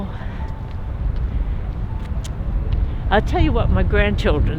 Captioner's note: gentle piano music; footsteps tapping